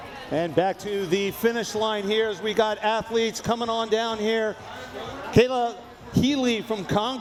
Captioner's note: none